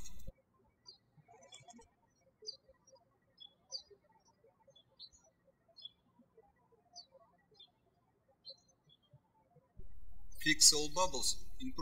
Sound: birds chirping

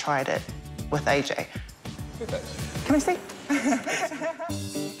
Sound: laughs

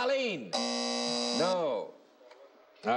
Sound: buzzing

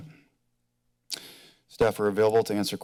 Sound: clicks tongue

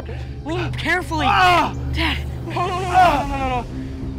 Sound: groaning in pain

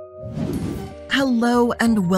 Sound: background whooshing

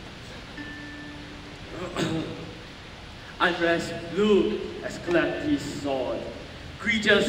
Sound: clears throat

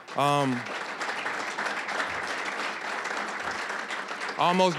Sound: applause

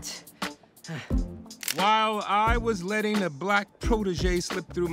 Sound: camera shutter clicks

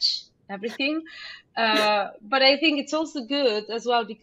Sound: laughing

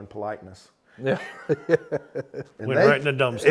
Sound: laughs

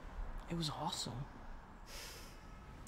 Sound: whispering

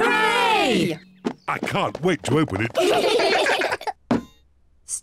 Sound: all giggle

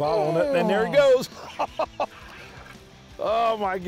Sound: laughs

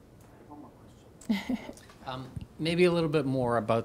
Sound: laughs

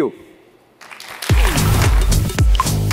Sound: applause

